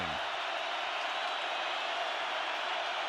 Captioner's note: crowd cheering